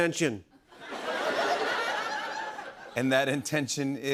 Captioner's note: laughter